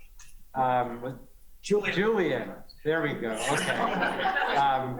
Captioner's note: laughter